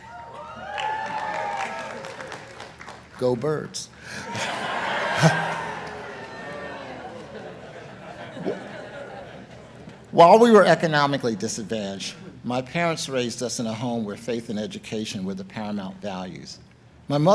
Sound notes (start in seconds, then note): 0.0 audience cheering and applauding; 4.1 audience cheering